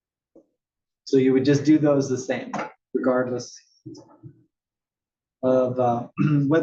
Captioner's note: cough